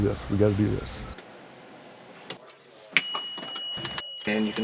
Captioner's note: repair noise